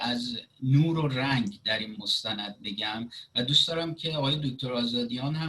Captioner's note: speaking Farsi